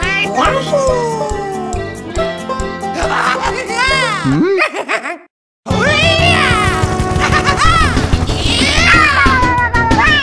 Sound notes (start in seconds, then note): 2.9 Iggy laughs